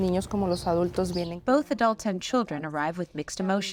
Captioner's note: through translator